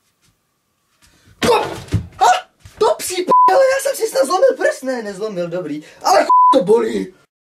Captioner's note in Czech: výkřik